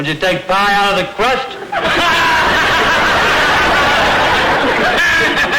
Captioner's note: audience laughter